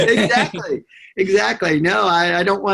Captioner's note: laughter